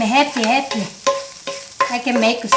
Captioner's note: spoon scraping